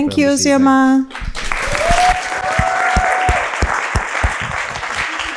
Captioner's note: audience applauding